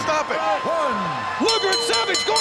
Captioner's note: match bell rings